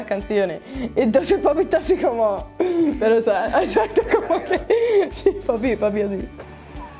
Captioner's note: laughs